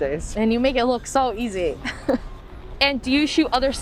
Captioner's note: laughs